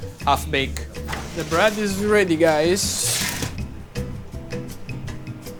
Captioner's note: tray rustling; gentle music